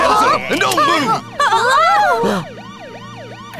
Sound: all gasp

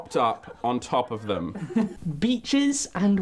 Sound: laughs

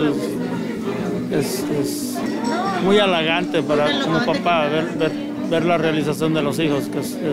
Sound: spanish 00:57:40

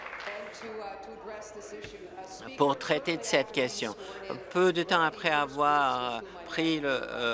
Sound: applause

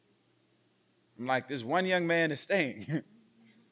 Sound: chuckles

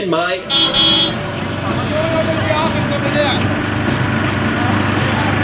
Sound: horn honks outside

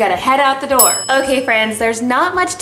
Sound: ding

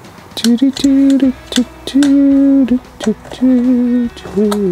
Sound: upbeat music; man humming

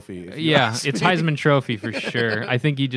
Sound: laughter

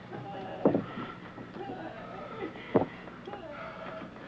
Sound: Petronella crying

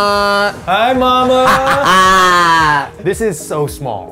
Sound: laughs

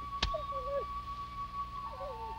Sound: whimpering

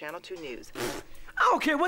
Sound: blowing raspberry softly

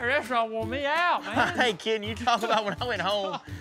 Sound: laughing

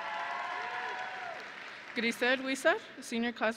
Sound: audience and graduates cheering; audience and graduates applauding

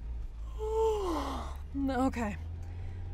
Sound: yawn

